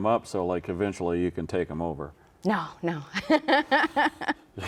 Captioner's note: laughs